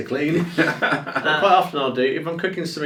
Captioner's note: laughs